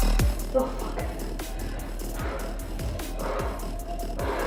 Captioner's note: exhales sharply